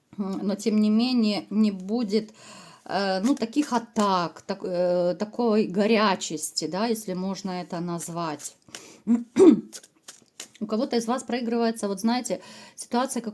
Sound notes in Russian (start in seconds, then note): 9.1 откашливается